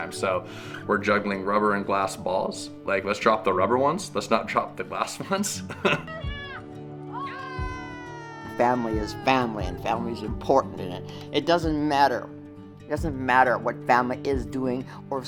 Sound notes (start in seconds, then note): 5.6 laughing; 7.1 cheering